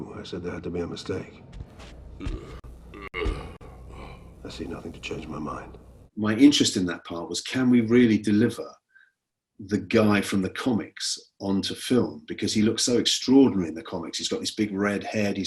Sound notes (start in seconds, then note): 2.9 grunting